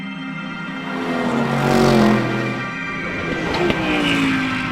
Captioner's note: enigmatic music; engine revving